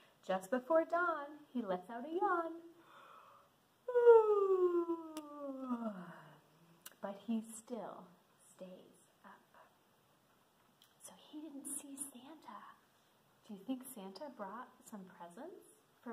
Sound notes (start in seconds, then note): 3.9 yawns